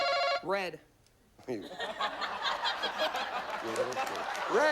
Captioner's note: audience laughs